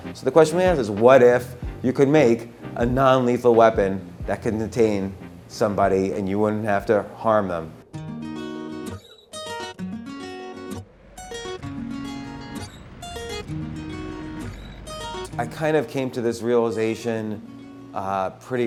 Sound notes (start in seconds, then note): 8.1 acoustic guitar music; 12.0 city sounds